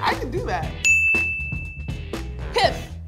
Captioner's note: dings